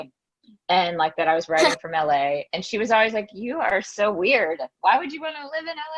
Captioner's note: laughs